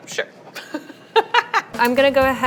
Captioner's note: laughing